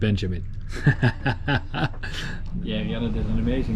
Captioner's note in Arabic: يضحك